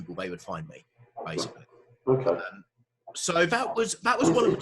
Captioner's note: murmurs